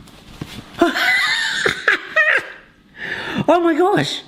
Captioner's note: laughing